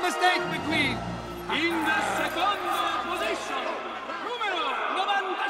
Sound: announcer speaking in Italian

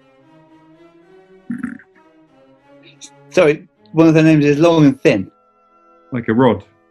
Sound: sniggers

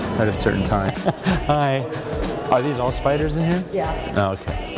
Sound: laugh

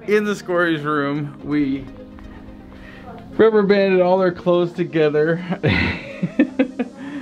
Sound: laughs

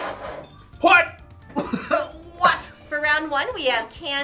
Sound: laughs

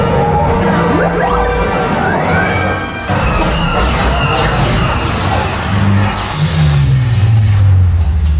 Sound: big Laser Blaster noises

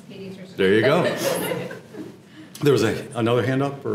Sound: laugh

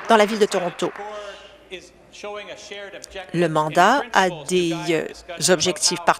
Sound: applause

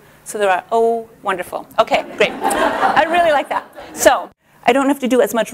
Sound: laughter

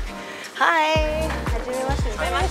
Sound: speaking in foreign language; group speaking in foreign language

